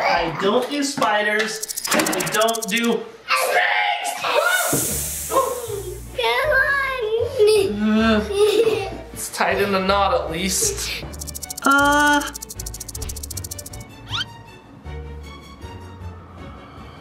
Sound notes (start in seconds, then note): 5.5 snake slithers; 11.1 snake slithering; 11.4 suspenseful music